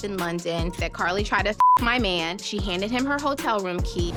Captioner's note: beep